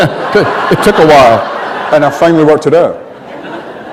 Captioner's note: laughter